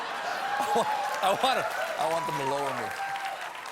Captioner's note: applause; laughter